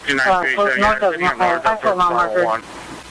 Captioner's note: radio chatter